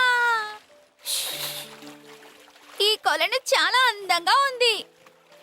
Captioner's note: splash